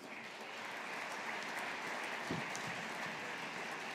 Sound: audience applauding

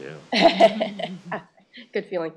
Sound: laughter

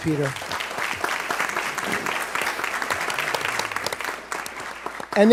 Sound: applause

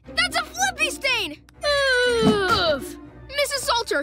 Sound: groaning

